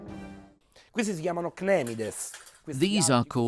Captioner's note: speaking in foreign language